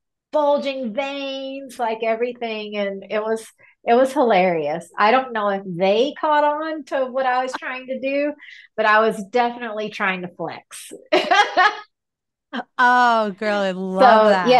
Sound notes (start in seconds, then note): 11.2 laughing